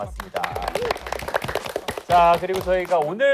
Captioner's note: appluase